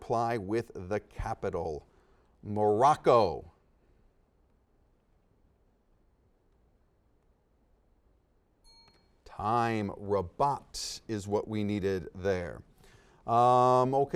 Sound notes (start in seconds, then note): 3.5 silence; 8.6 dings